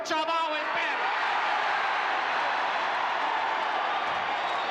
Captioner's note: audience cheering